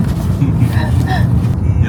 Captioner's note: haha